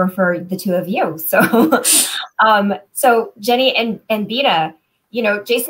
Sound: laughter

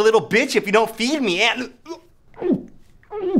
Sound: is trying to cough a hairball

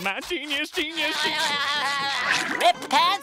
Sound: laughing

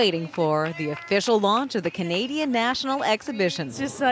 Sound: cheering/Applause

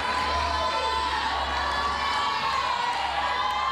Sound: cheers and applause

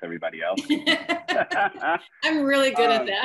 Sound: members laugh

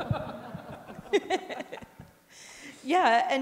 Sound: audience laughing

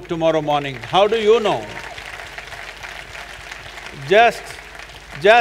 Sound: applause

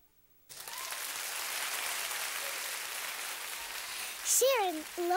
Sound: applause

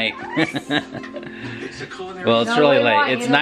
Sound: laughing

